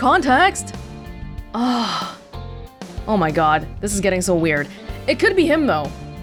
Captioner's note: exhales